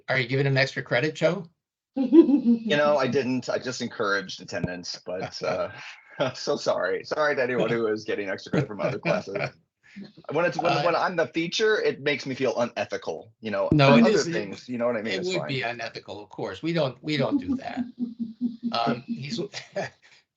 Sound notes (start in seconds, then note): 2.0 laughing; 9.2 laughing; 17.1 chuckling